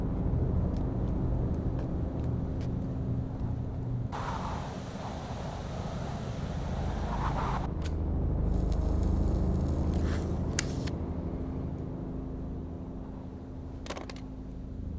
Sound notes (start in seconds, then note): 4.1 wind howling; 8.5 flame hissing